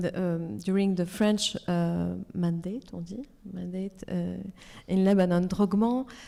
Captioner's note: speaks French